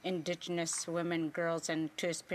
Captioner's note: speaking Indigenous Language